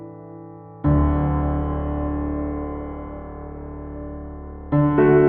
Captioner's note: none